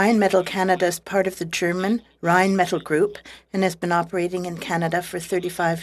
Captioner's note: speaking in French